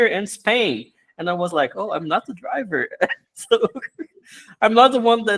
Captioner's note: laughs